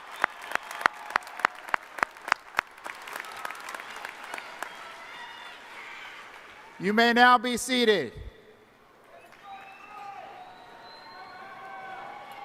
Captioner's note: applause